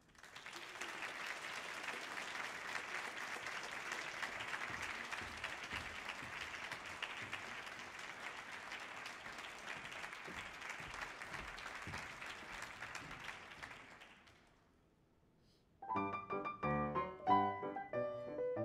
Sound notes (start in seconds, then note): 0.1 audience applauding; 10.7 audience applause continues; 15.8 bright music